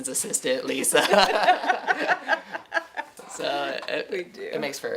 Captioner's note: laughing